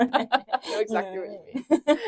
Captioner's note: laughs